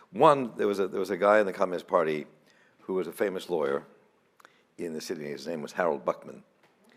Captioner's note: none